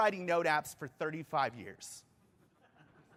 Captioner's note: laughter